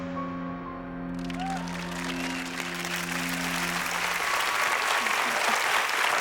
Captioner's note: melancholy music; audience cheers and applauds